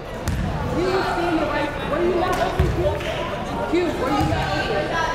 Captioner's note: crowd chattering faintly